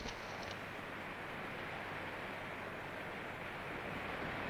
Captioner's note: rapids roaring